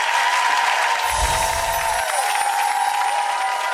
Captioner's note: clapping and cheering; chimes ring